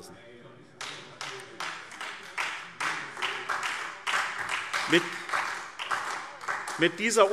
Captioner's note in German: Beifall